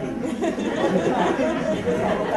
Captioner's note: laughter